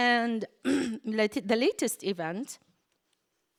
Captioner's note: clears throat